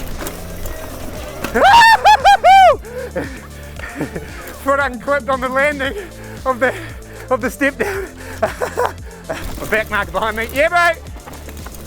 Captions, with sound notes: (hollering gleefully) Foot unclipped on the landing of the step down. (laughing) Another bike behind me. Yeah bro!